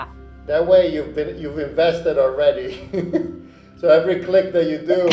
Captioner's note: laughs